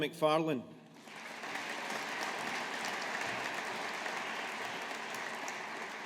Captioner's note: audience applauding